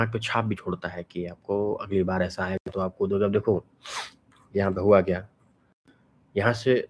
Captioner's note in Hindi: नाक से की जाने वाली आवाज़